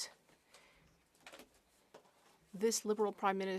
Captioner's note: speaking French